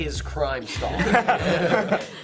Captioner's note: laughter